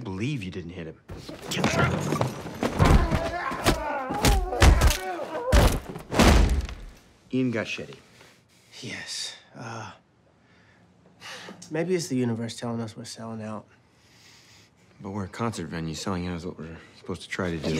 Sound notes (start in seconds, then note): 2.8 grunting; 3.9 hitting